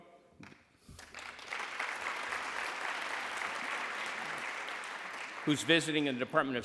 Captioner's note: applause